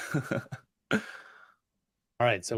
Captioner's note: laughs